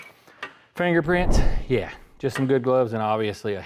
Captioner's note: whooshing